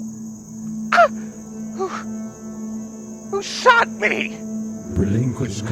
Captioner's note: cough